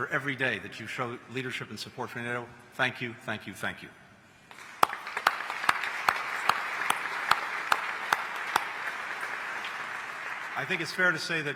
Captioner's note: applause